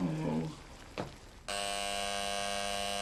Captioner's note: door buzzer